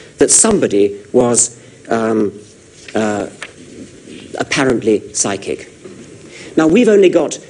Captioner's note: hesitates